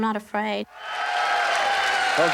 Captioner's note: cheering